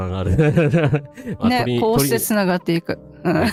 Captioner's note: laughter